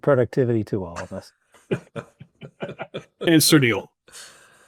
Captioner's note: attendees laughing